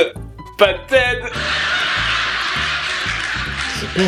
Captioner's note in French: Rires de sitcoms